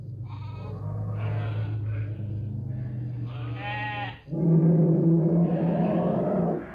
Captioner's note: animal sounds